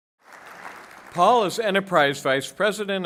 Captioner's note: applause